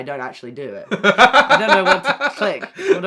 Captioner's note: laughs